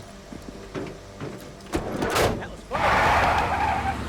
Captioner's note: doors thudding; tires screeching